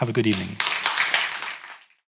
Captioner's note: audience applauding